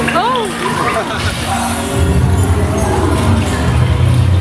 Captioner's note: water trickling; laughing